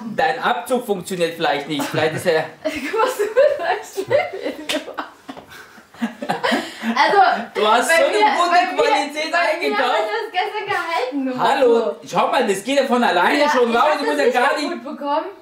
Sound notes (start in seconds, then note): 6.0 laughing